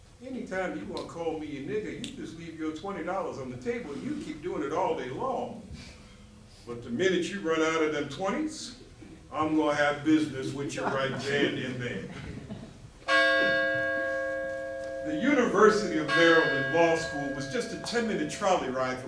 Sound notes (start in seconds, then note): 13.0 college bell